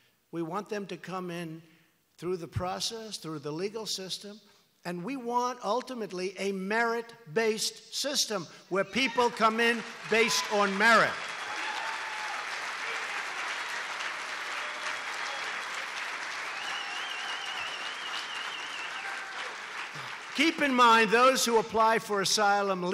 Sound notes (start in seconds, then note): 11.1 applause